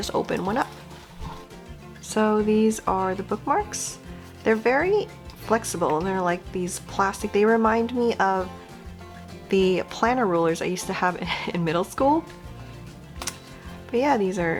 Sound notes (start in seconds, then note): none